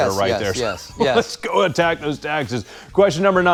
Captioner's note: chuckles